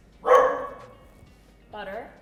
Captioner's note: Gus barks